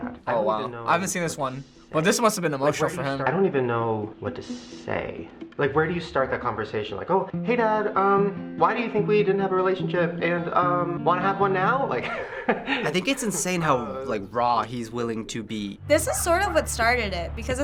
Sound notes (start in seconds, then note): 12.0 chuckles